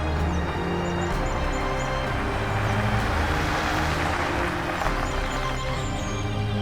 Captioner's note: car approaches